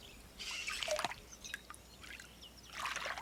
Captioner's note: birds calling in background